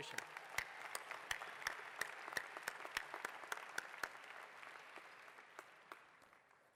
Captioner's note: applause